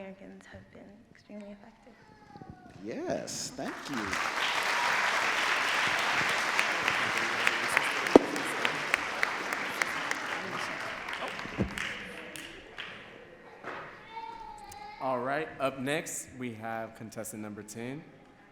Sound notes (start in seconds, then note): 5.5 audience claps